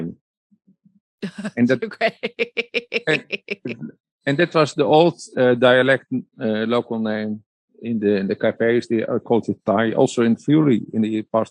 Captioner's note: laughs